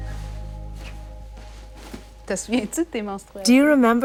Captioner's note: Camille's mother speaking French with translation